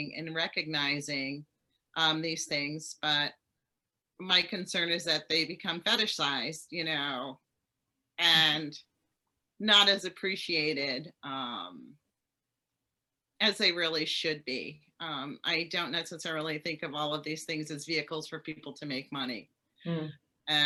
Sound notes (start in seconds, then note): none